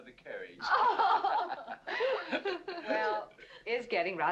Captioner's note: women laughing